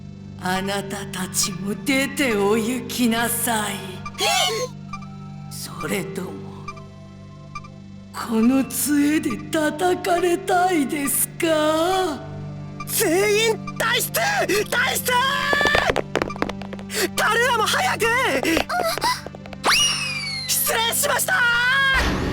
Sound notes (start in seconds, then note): 4.2 terrified gasp